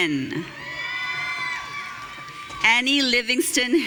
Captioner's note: audience cheering